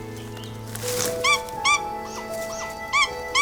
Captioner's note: squawks